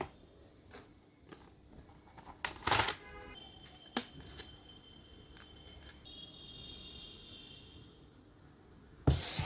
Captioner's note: ASMR: Cardboard tear & plastic tray snap